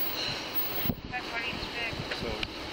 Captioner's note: radio chatter